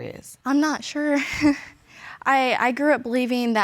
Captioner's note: chuckles